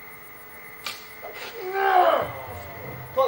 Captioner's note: arrow whooshes, Guy growls